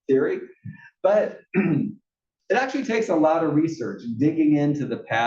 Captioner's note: cough